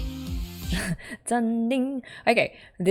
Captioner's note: imitates notes